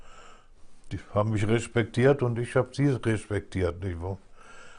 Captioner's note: German spoken audio